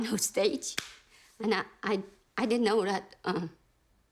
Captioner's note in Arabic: تصفق بيديها